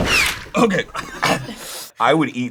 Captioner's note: makes strange sounds; coughs